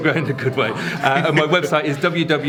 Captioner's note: laughs